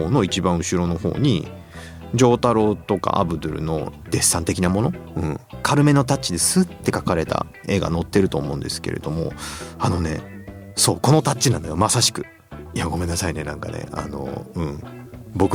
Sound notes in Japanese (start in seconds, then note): 9.9 鼻息